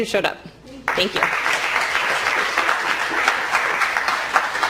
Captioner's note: applause